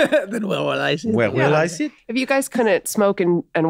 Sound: French accent

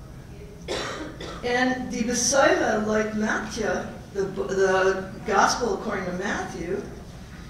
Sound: foreign

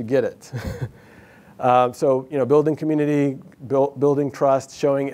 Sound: laughs

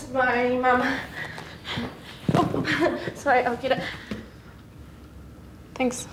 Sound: phone thumps on ground

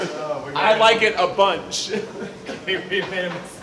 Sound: laughs

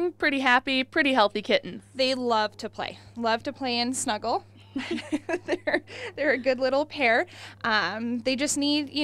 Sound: pauses and laughs at kitten

